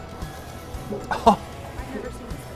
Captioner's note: laughs